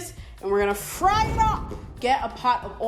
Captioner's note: flames roar